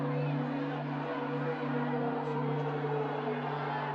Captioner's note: faint shouting